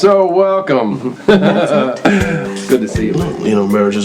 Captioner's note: chuckles